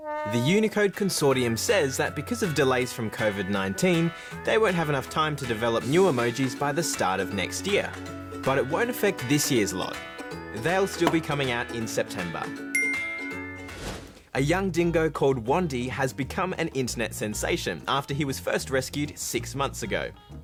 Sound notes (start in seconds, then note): 12.7 ding!